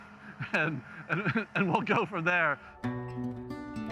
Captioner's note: chuckles; soft music